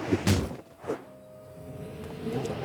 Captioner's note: whoosh